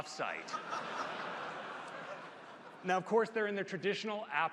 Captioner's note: laughter